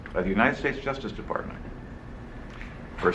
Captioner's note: none